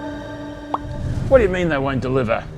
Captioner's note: pop